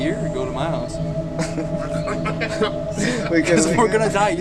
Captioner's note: laughs